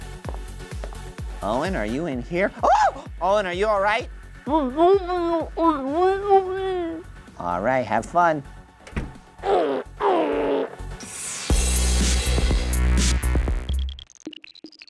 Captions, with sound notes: - Owen, are you in here? Ah! Owen are you alright? Alright, have fun. (groaning) (techno music)